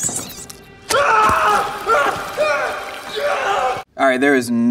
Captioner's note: bug slithering; holder shrieking